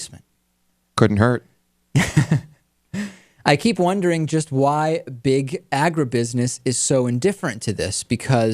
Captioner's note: laughs